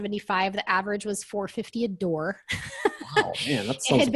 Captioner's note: laughs